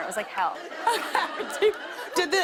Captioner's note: laughter